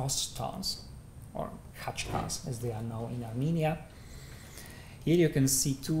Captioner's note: non-english